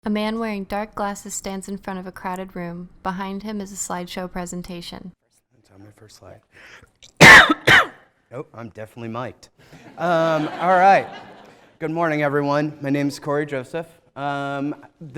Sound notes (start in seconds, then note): 7.1 coughs; 9.8 laughter